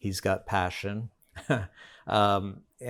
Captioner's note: chuckles